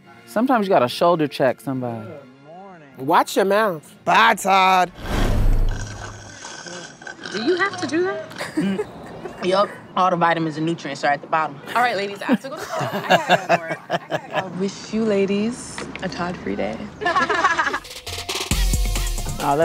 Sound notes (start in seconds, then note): 12.2 laughs; 17.0 laughs; 17.8 upbeat music